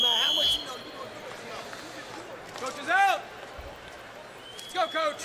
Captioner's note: whistle blows